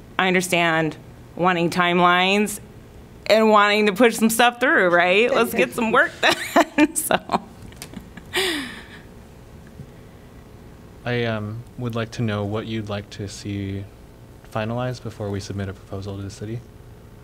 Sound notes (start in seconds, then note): 6.2 laughter